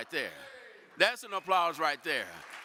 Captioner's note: audience applaud